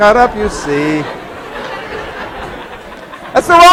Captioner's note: laughing